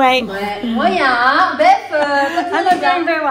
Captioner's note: women speaking in foreign language